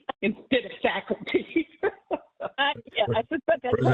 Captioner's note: laughing